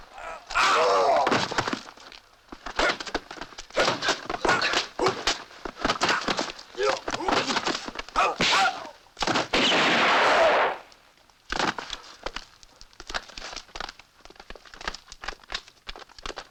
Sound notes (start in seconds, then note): 0.1 man yells; 2.4 grunting; 9.2 gunshot